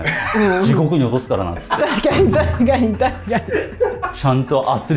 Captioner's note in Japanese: 笑い